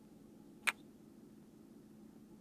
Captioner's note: kiss